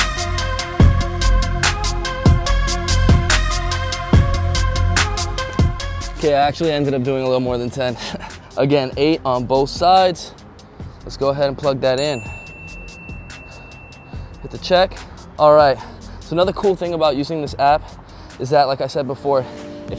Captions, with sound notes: Okay, I actually ended up doing a little more than 10. (chuckles) Again, eight on both sides. Let's go ahead and plug that in. (bell dings) Hit the check. All right, so, another cool thing about using this app, is that, like I said before,